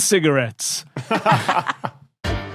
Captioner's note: laugh